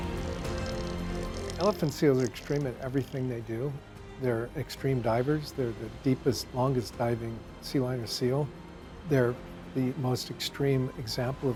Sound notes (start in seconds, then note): 1.5 gentle instrumental music; 1.5 seals grunting